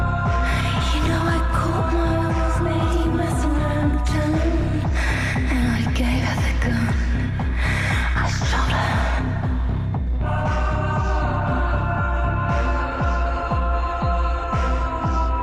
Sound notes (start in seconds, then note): none